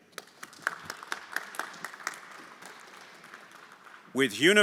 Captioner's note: everyone applauding